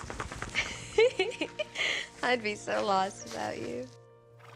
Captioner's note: laughs